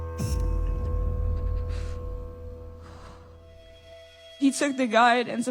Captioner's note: breathes shakily, exhales deeply